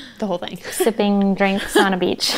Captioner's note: they laugh